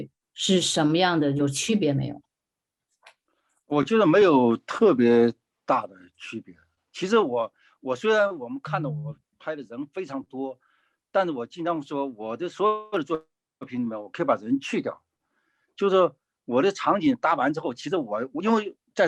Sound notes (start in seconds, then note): 4.3 speaking in foreign language